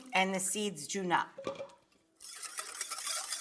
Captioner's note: lemons plopping; mixture whisking